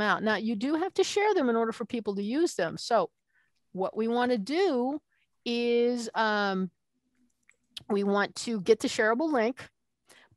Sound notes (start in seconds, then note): none